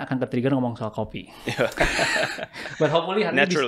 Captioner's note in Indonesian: tertawa